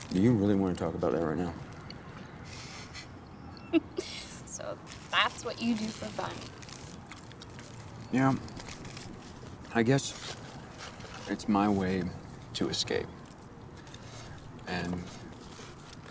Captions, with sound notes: - Do you really want to talk about that right now? (laughing) - So that's what you do for fun? - Yeah, I guess it's my way to escape and learn things.